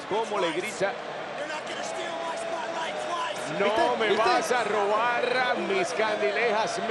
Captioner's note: applause